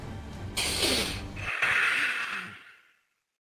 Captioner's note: deep preparation breath; silence